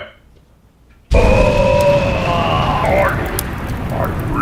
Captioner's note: ted groans simultaneously with explosions